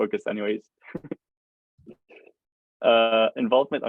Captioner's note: laughs